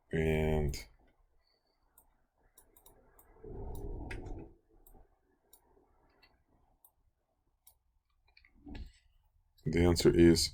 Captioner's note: clicking Sounds